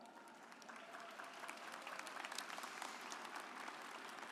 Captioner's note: audience applauding